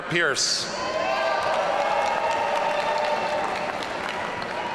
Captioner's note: audience cheering